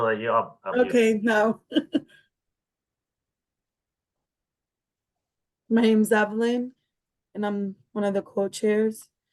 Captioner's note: laughing